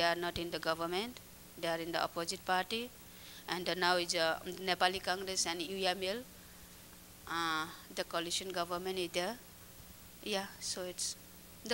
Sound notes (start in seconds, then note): 6.1 non-english speech